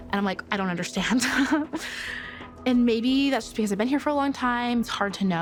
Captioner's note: laughs